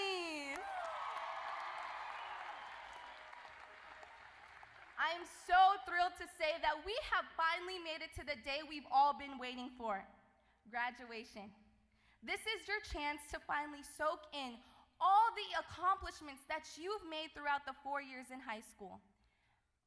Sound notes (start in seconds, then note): 4.4 applause